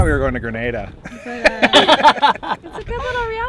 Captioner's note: laughter